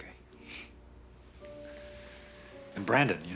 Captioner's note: kyle sniffles